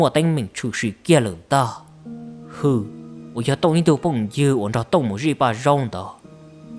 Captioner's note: ominous sound